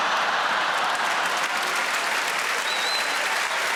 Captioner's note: audience laughing and clapping